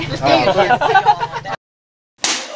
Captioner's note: laughs; slaps in the face